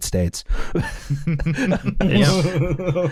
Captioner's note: laughter